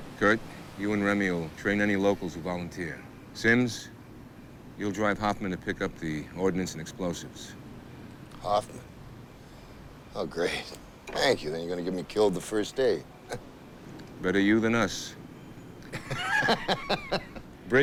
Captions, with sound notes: Kurt, you and Remi will train any locals who volunteer. Simms, you'll drive Hoffman to pick up the ordnance and explosives. - Hoffman, oh, great, thank you, then you're gonna get me killed the first day. (laughs) - Better you than us. (group laughs)